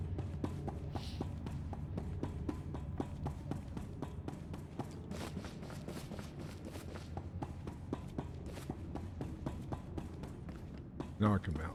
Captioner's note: footsteps